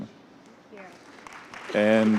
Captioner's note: applause